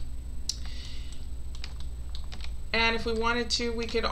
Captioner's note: mouse clicks